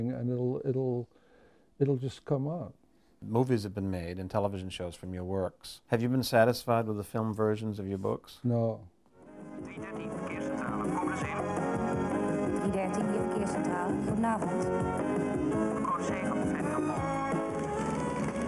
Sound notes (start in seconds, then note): 10.2 speaking foreign language